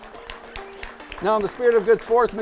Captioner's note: audience applauds